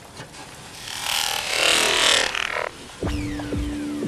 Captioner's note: vibrating noise